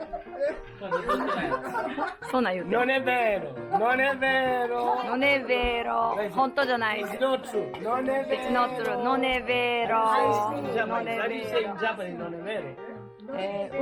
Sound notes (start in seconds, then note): 5.9 Italian